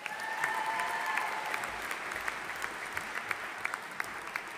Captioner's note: audience applauding